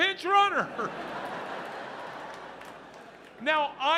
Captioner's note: audience laughs